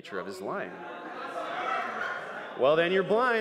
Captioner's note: crowd noise